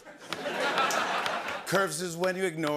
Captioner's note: laughter